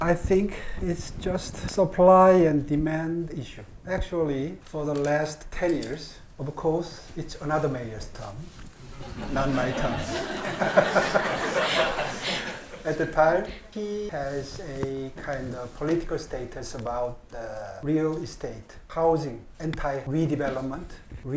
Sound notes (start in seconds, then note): 8.8 everyone laughing